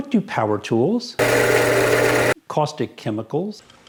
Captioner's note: drill